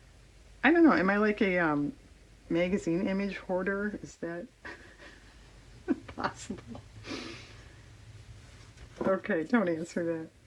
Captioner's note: laughs